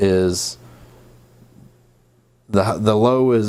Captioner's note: silence